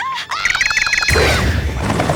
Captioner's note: doink